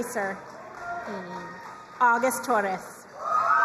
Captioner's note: crowd cheering and applauding